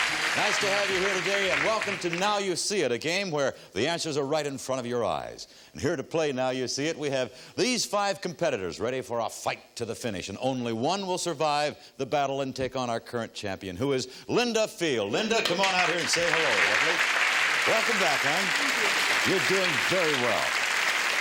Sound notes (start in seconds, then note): 18.1 audience applause